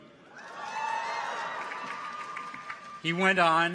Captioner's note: people cheer